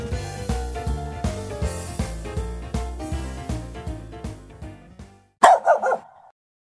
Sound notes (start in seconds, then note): 0.0 light music; 5.4 dog barking